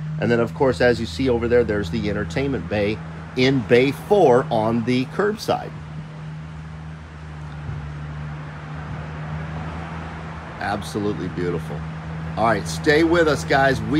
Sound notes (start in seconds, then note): 6.0 engine humming